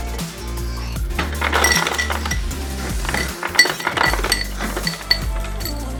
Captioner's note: ice clinking